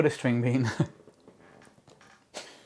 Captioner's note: laughter